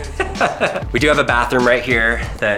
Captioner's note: narrator laughs